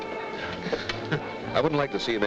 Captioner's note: Joe laughs